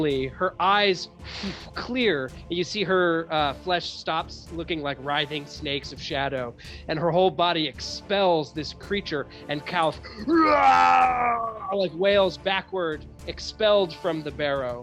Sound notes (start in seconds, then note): 10.3 roars